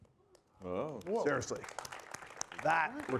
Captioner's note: audience applauding